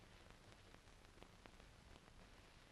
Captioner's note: none